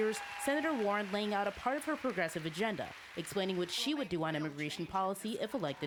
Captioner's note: cheering and applause